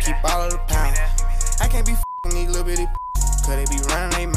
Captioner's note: beep